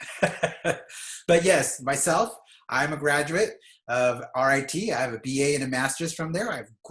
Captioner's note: laughs